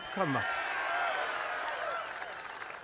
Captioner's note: applause